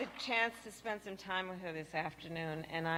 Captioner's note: applause